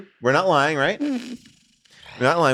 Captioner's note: Rob sighs